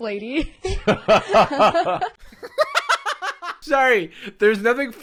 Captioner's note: laughing in unison